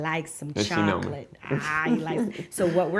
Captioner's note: chuckles